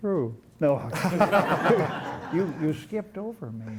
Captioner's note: laughter